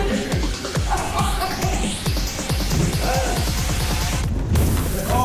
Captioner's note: laughs